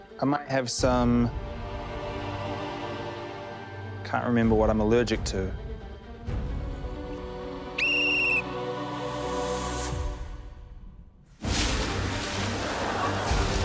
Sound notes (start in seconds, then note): 7.7 whistle blares; 11.3 dramatic music swells